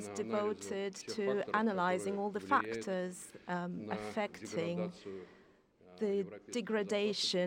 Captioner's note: speaking foreign language